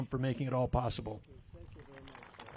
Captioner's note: applause